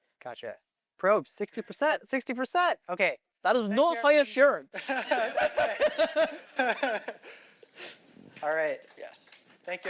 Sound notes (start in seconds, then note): 7.3 laughter